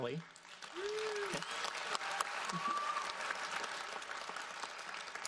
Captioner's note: audience applauds